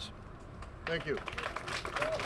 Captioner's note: applause